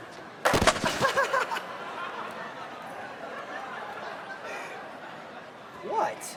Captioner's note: tray thuds; Garrett laughs